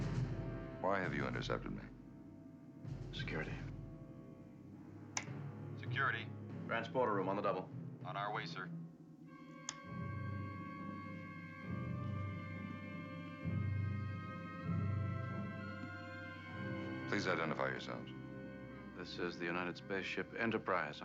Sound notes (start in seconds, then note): 5.5 over intercom; 13.0 suspenseful theme playing